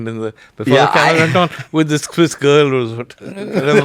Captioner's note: laughs